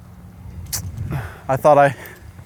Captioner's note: smack Lips